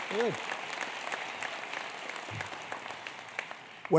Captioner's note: applause